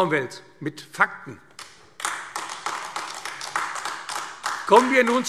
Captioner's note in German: Beifall AfD